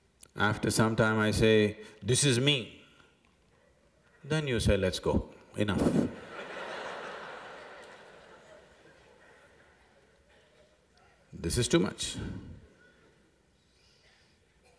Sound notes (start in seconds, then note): 9.5 laughter